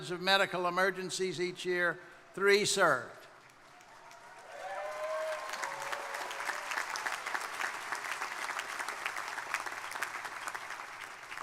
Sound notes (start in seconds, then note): 3.4 crowd applauding; 3.6 crowd cheering